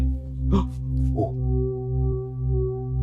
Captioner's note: gasps